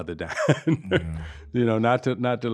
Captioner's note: laughing